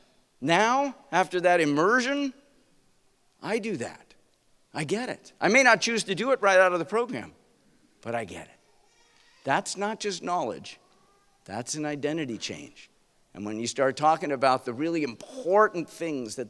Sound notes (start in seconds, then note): none